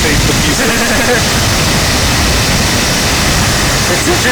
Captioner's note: laugh